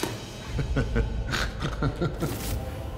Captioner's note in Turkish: Gülme sesi